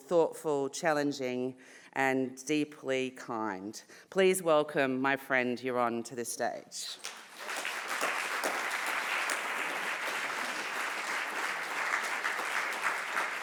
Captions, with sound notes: thoughtful, challenging, and deeply kind. Please welcome my friend, Yaron, to the stage. (audience applauding)